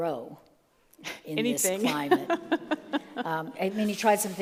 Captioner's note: laughs